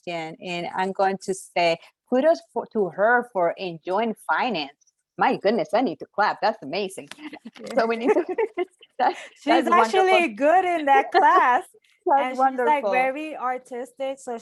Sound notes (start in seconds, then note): 7.3 laughs; 7.7 both laughing